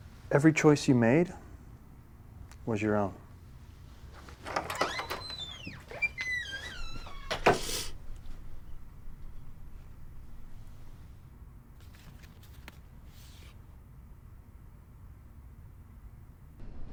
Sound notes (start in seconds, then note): 4.4 door squeaking; 7.3 door thuds; 7.5 Mae sniffles